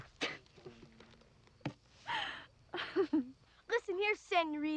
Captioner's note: Mavis laughing